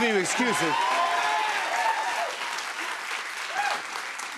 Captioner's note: cheers and applause